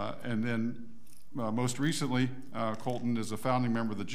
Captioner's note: none